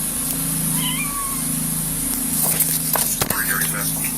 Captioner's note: cat meows